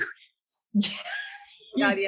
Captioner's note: lauging